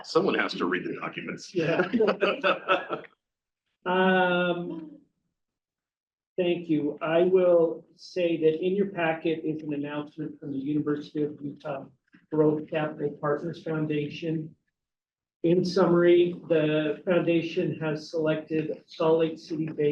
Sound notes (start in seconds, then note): 0.1 laughs